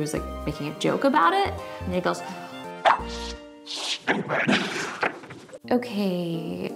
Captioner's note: laughs